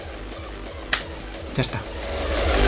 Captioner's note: clap